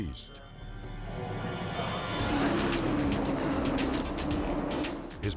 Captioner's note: dramatic music; cars whooshing